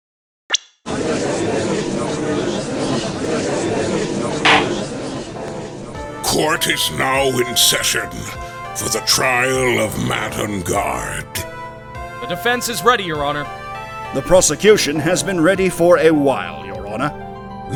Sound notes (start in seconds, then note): 1.0 gallery chattering; 4.4 gavel slams!